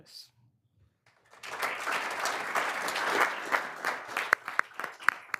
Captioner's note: all applauding